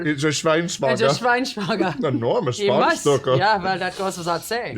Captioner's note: speaking German